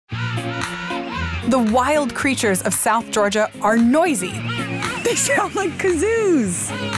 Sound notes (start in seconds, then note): 0.1 penguins squealing; 0.1 upbeat music; 6.7 penguins squealing